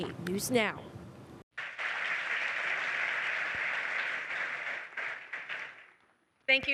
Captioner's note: applause